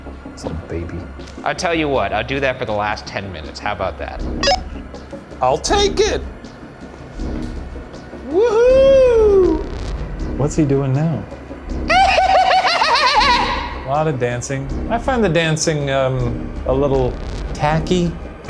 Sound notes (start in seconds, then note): 11.9 laughing hysterically